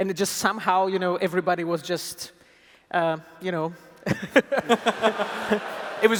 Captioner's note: laughs